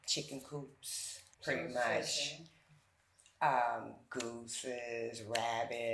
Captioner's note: someone speaking faintly